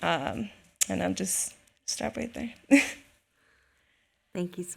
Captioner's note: laughs